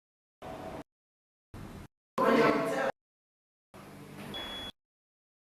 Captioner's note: ward noises cut in and out